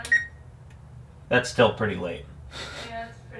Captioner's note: giggles